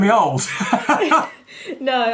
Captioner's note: laughing